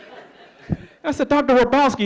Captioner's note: laughing